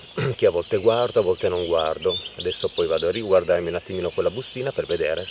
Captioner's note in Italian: schiarire la voce